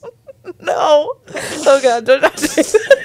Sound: panel laughing

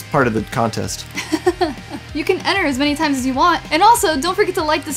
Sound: laughter

